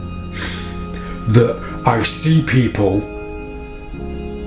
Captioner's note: sighs